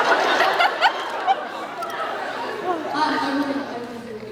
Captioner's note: laughs